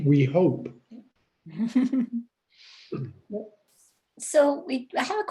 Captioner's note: laughs lightly